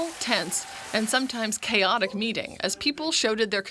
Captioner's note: applause